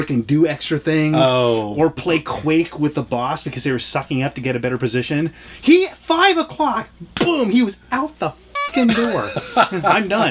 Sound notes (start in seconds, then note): 8.5 horn honking; 8.6 laughs